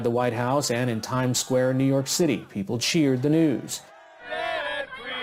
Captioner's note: cheers